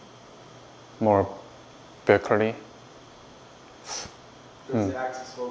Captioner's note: gasps